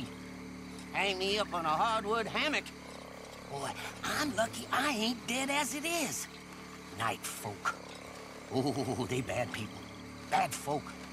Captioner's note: shivers